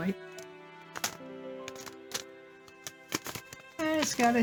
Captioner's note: paper envelope rustling